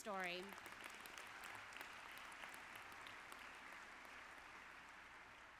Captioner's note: audience applauds